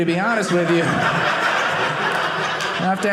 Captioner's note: audience laughing